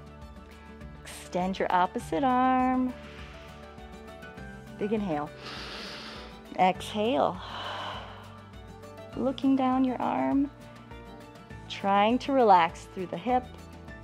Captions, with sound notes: Extend your opposite arm. [exhales] Big inhale, [inhales] exhale. [exhales] Looking down your arm, trying to relax through the hip.